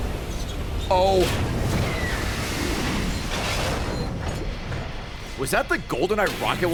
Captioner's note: screech